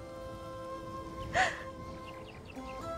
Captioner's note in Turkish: Ağlama sesi